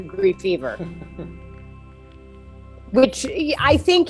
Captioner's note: chuckles